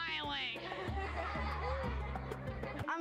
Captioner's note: laughter